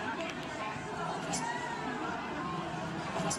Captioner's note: background club noise